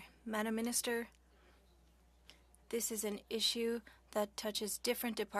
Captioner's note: speaking French